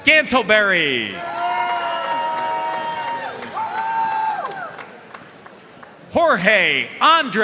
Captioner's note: audience cheering and applauding